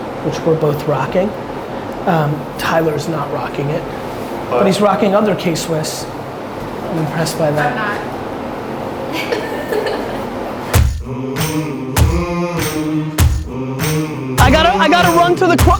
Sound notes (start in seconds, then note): 9.1 laughs; 10.8 hip hop music